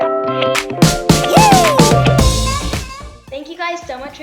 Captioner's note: monster shrieks